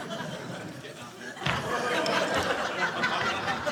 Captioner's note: audience laughing